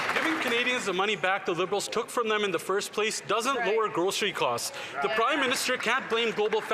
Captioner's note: some Applause